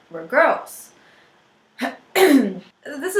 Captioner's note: clears throat